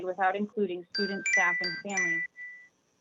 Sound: chime

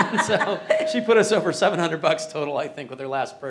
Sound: laughing

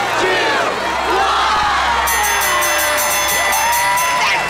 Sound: bell ringing

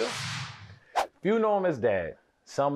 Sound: whooshing

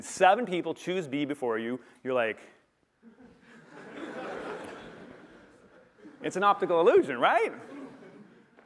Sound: laughter

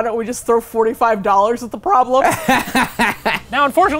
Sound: laughing

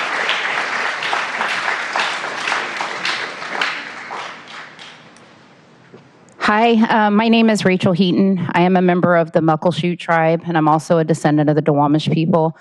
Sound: applause

